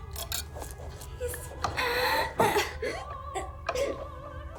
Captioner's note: sobbing